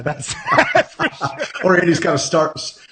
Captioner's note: laughing